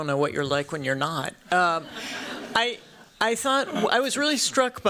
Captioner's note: laughter